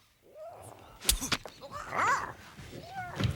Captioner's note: spits; Tasha babbles